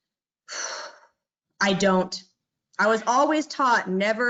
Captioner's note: exhales